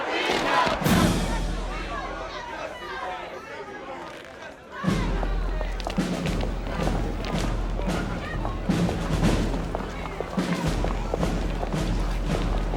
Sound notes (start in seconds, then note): 0.1 shuffling; 4.8 protesters walking